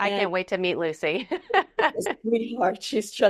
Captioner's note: laughing